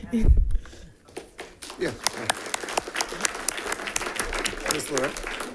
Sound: audience applauding

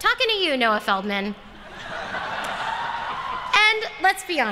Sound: laughter

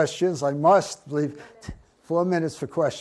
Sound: voiceover

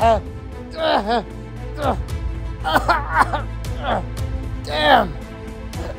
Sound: Darius gowning and coughing

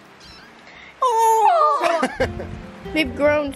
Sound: all exclaim; laughs

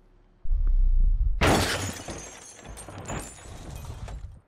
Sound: crash

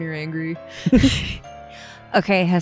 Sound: laugh

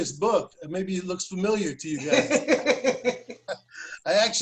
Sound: laughter

